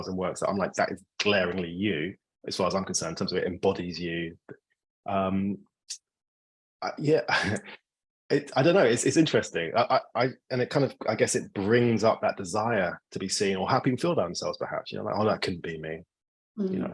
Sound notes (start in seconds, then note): 7.1 laughing